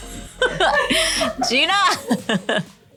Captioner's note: laughter